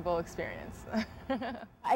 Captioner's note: laughter